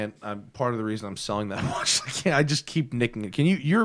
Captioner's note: laughter